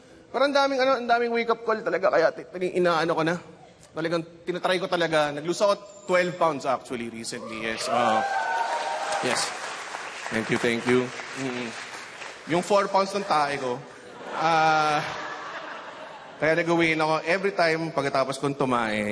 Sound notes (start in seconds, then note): 7.4 audience cheers; 14.0 laughter